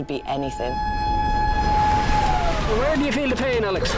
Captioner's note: siren blaring